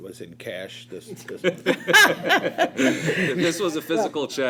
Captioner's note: laughter